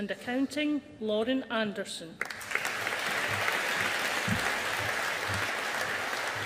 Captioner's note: audience applauding